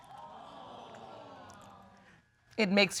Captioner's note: audience gasps